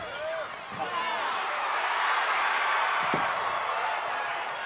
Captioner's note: crowd cheering